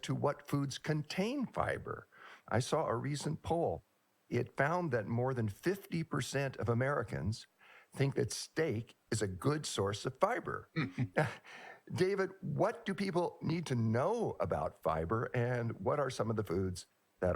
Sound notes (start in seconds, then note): 10.7 laughs